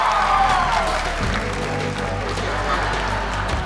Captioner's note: applause